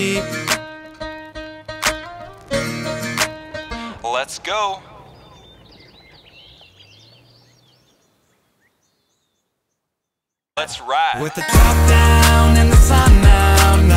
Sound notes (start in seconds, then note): 0.0 guitar music; 6.0 birds chirping